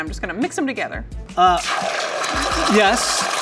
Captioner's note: pan sizzling